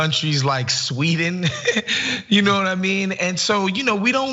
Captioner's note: laugh